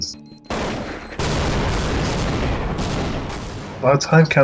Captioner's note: gunshots blasting; explosion booming